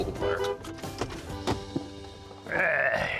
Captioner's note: honks horn